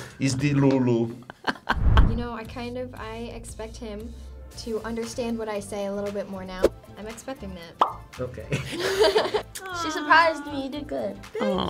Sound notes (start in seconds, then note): 1.4 laughs; 7.8 bubble pops; 8.5 chuckles